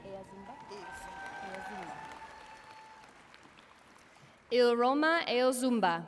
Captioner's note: audience cheering and applauding